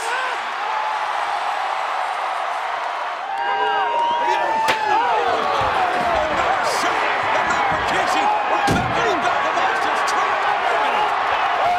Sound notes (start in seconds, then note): 0.1 audience cheering; 5.4 chair thuds